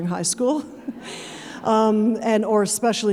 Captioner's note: audience chuckling